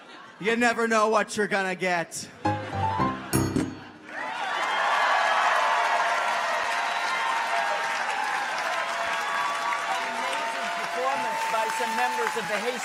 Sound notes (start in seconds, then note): 2.3 audience laughs; 3.9 audience cheers; 4.0 audience applauds